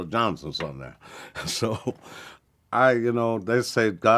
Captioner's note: chuckles